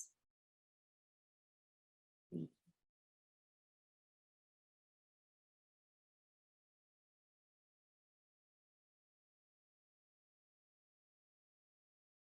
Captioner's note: silence